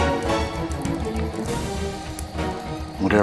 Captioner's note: fire crackling